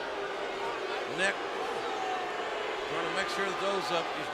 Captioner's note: crowd booing